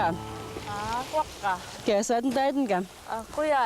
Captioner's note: speaking yupik